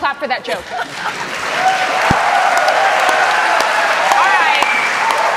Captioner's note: cheers and applause